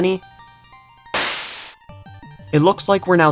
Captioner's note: teleport Noise